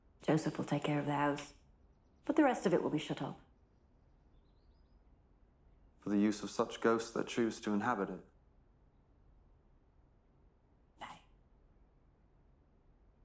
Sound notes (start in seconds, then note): none